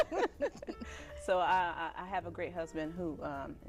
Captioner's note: both laughing